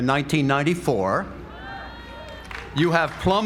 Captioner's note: applause